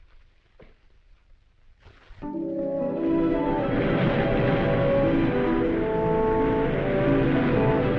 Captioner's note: dramatic music; waves crashing